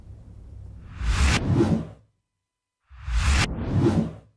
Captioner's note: text whooshes